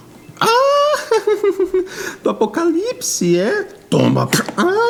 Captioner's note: laughs